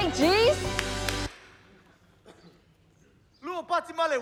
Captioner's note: silence, boy coughs